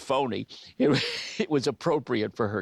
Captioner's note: ben chuckles